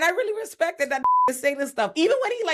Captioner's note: beep